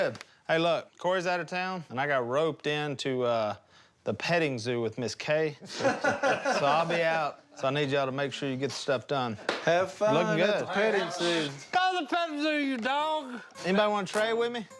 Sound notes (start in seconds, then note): 5.6 laughter